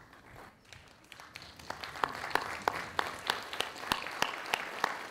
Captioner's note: audience applauding